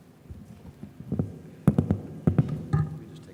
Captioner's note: microphone rattles